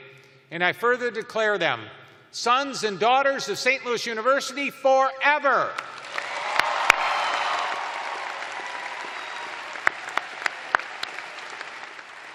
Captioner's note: cheers and applause